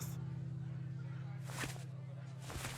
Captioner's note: paper and fabric rustling